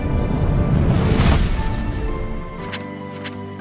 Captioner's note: bright music continues; image whooshes; pages rustling